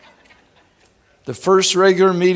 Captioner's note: laughing